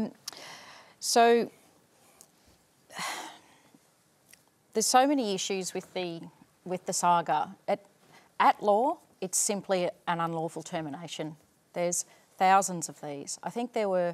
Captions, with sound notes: So... (SIGHS) There's so many issues with the saga. At law, it's simply an unlawful termination. There's thousands of these.